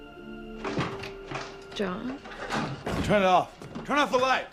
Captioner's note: doorknob rattling